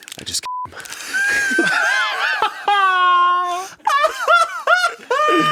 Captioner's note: beep; everyone laughs